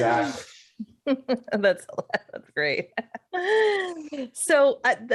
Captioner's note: laughs